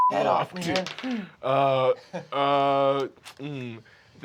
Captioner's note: rolls dice